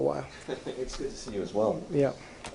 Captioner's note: laughter